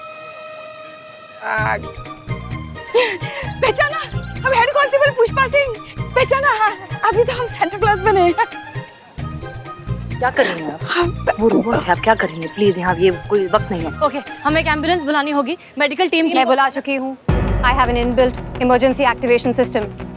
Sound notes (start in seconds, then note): 1.3 sighs